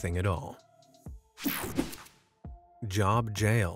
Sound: screen whooshing

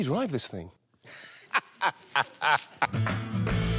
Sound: laughs

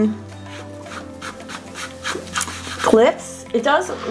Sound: palm rubs

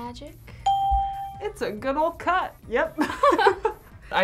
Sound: ding; both laugh

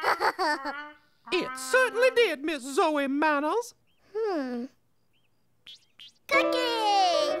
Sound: giggling

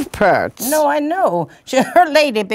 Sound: scoffs

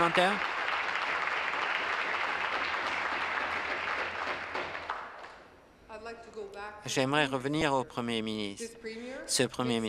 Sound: applause

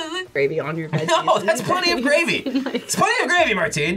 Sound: laughs

